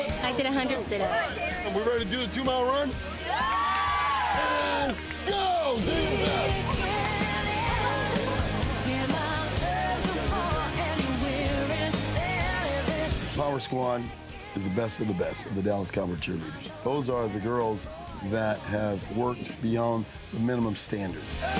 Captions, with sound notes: - I did a hundred sit-ups. - Are we ready to do the two mile run? (crowd cheers) And, go! (fast tempo rock music) Power squad is the best of the best of the Dallas Cowboy cheerleaders. Those are the girls that have worked beyond the minimum standards.